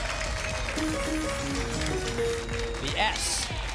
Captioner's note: applause and cheering; pinging sounds